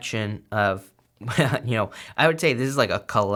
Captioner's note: chuckles